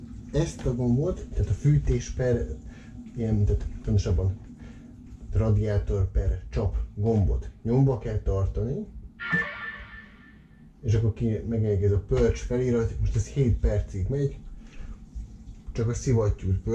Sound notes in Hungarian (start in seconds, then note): 11.1 csap/radiátor jel